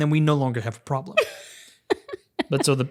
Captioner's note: laughs